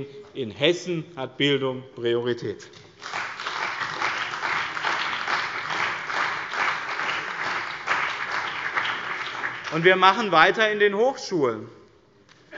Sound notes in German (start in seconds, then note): 2.9 Beifall bei dem BÜNDNIS 90/DIE GRÜNEN und der CDU